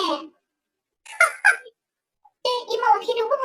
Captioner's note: laughs